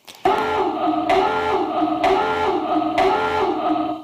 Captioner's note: alarm ringing